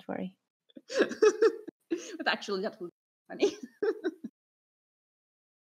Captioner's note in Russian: Смеются